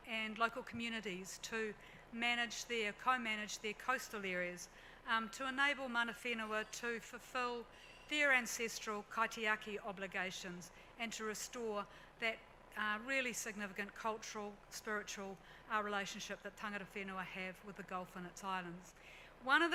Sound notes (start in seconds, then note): 9.1 speaks in foreign language